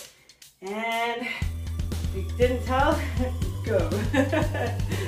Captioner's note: laughing